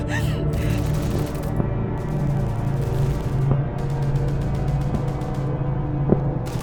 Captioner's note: ominous music; guns firing in distance